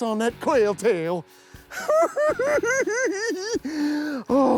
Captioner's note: giggles